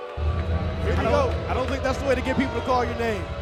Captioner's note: audience continues to boo